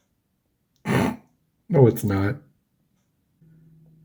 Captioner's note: snorts